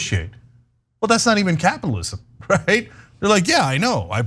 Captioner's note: laugh